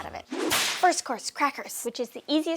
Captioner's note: whip cracking